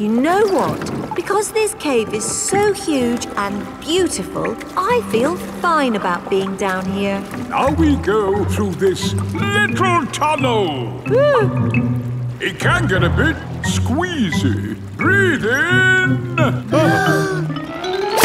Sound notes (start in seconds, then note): 11.1 whimpers; 16.8 breathing in